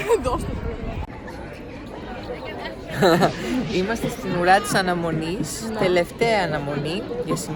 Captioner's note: giggles; giggles